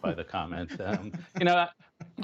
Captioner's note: laughter